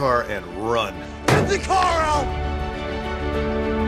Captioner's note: slams